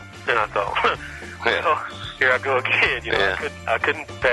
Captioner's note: laughs